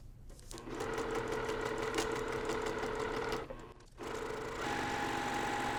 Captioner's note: sewing machine whirring